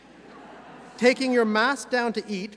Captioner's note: audience laughs